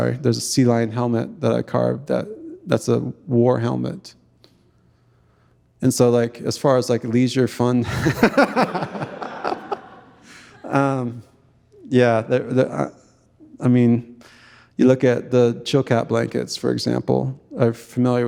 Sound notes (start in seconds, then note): 11.0 audience laughing; 11.0 chuckles; 15.2 speaking in Tlingit language